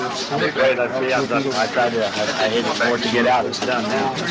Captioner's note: crowd murmuring